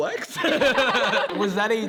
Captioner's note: group laughs